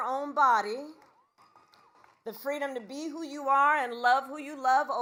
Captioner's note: applause